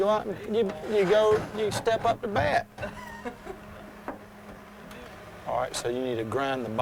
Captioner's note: laughs